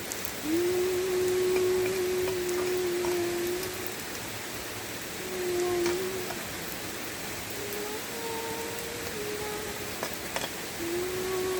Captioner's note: humming a little song